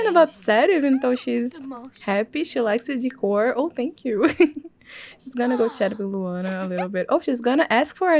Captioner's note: laugh